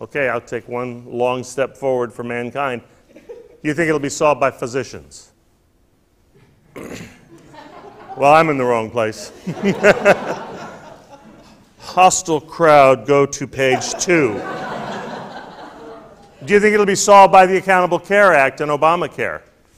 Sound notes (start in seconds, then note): 9.2 laughter; 13.6 laughter